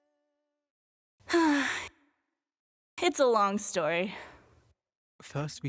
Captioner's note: sigh